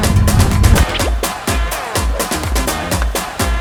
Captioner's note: sound of force